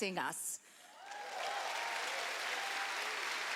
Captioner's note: cheering